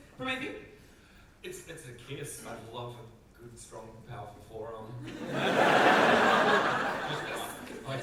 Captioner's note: audience laughter